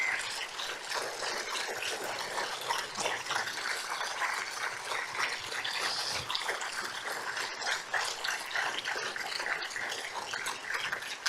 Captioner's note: applause, standing ovation